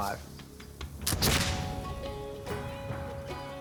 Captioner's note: gunshot